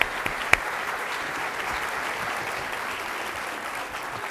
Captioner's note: applause